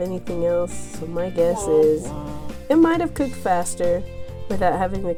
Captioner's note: womp womp